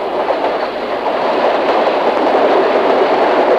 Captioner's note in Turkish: Tren tekerleklerin raylardaki tıkırtısı devam ediyor